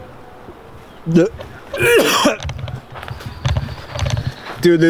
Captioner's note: heaving